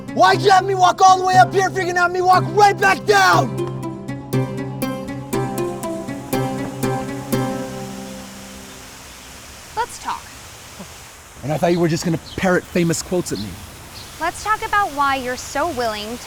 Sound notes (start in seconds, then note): 3.8 playful music; 7.9 birds chirping; 7.9 water running; 11.0 chuckles